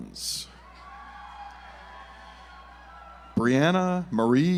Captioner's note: audience applauds